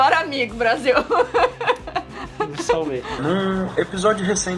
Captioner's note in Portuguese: risadas